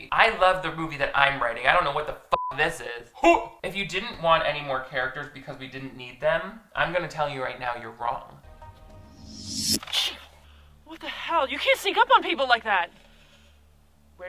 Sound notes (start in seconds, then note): 2.7 beeps; 9.0 air swooshing